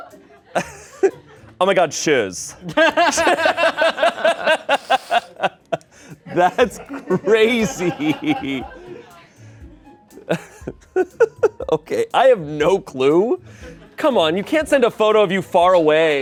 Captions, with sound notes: Oh my God, Shiz. (laughs) (laughter) That's crazy. (laughs) Okay. I have no clue. Come on, you can't send a photo of you far away.